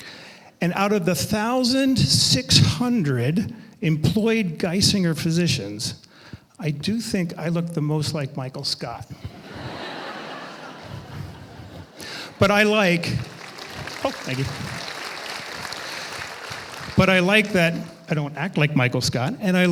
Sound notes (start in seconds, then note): 9.2 audience laughing; 13.0 audience applauding